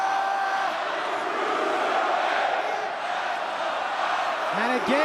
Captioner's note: crowd cheering